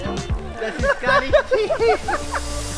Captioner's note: laughter